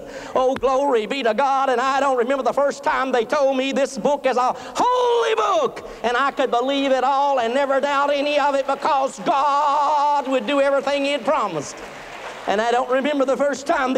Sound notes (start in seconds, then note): 12.0 applause